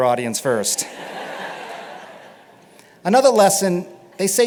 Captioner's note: laughter